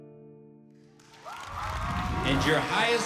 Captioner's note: audience cheering